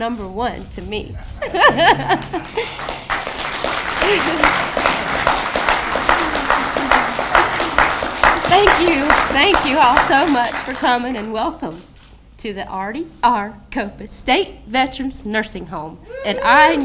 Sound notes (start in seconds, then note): 3.3 audience clapping